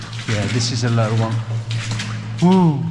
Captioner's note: water splashing